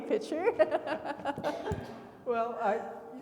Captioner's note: laughing; attendee coughing